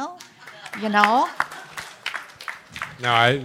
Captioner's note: applause